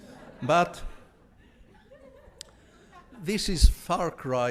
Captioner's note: audience laughs